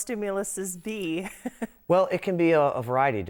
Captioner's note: chuckling